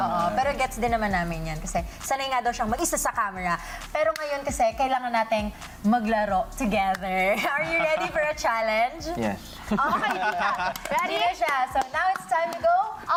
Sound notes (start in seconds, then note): 9.7 laughter